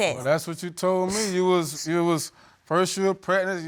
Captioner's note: scoffs